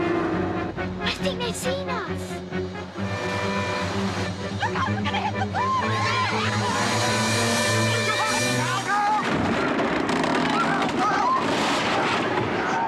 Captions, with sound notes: - I think they've seen us. - Look out, we're gonna hit the post! (shrieking) - Use reverse! (Hullabaloos shouting)